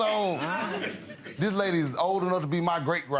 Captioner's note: audience giggles